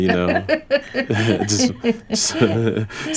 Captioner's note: laughter